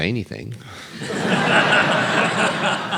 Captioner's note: laughter